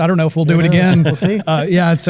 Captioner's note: laugh